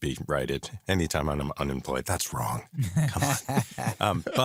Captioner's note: laughter